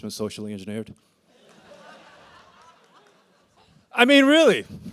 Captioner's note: laughter